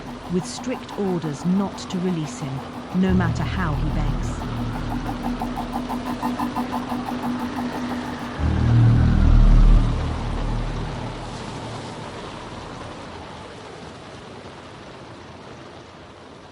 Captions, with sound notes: with strict orders not to release him, no matter how he begs. [menacing music continues] [wind howling]